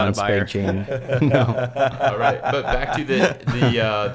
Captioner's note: laughter